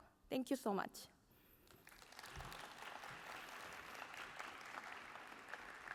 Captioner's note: applause